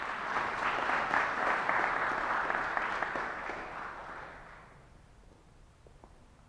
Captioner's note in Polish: oklaski